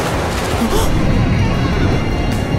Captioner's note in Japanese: 雷鳴